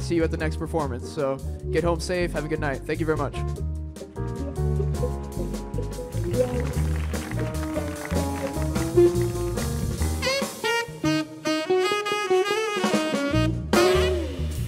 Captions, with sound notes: you at the next performance. So get home safe, have a good night, thank you very much. (applause)